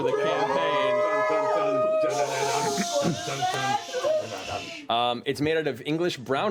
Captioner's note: cheering